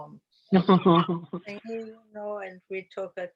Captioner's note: laughter